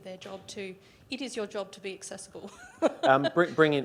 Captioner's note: laughs